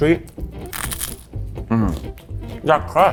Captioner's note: pizza crunches